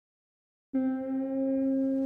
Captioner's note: ship's horn blows in distance